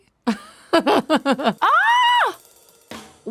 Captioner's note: Kate laughs